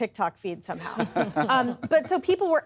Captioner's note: laughter